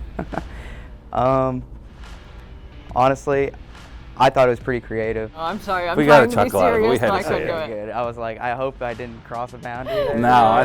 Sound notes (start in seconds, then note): 1.3 laughs